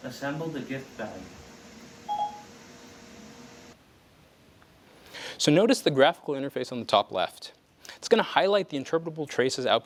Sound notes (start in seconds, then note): 2.1 ding, ding